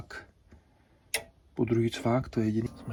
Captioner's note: click